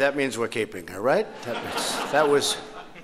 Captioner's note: laughter